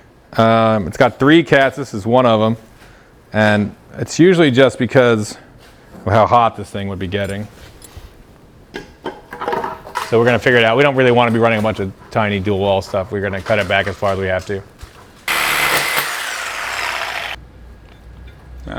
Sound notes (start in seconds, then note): 8.9 piping rattles softly; 15.2 saw buzzing loudly